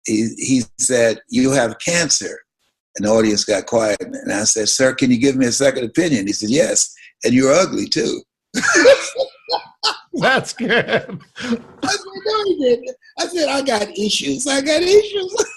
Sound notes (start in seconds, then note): 8.5 both laughing